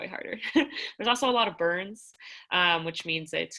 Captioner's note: laughter